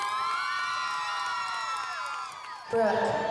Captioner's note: audience cheering